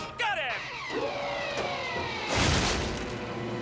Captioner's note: hard landing thud